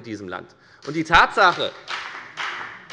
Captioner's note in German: Beifall bei der FDP